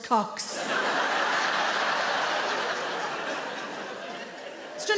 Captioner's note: audience laughing